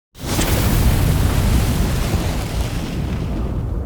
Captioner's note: fire crackling